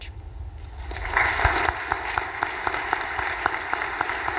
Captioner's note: audience applause